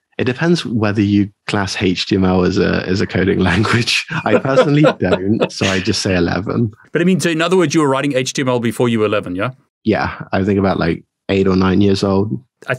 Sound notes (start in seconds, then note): 3.3 laughing